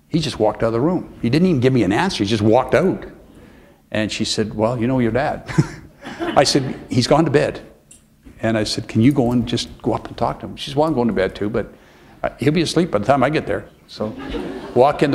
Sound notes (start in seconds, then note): 6.0 laughter; 14.9 chuckle